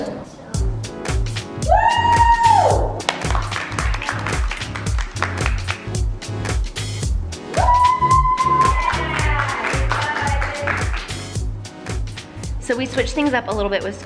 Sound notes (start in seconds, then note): 0.6 upbeat energetic music; 1.6 kid cheers; 3.0 family claps; 6.3 upbeat energetic music; 7.5 family cheers; 7.6 family claps